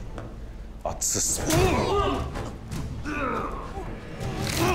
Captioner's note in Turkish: Dövüş sesleri; Boyun kırılma sesi